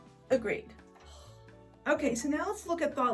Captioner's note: Post sighs deeply